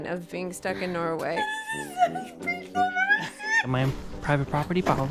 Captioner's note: chuckles